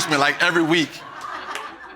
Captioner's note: audience laughs